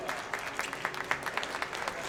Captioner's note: applause